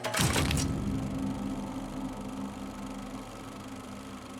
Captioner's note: projector whirring